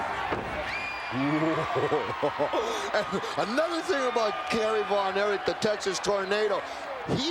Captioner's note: laugh